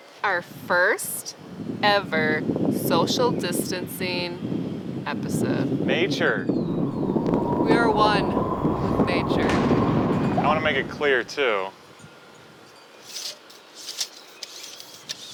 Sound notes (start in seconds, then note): 6.4 wind blowing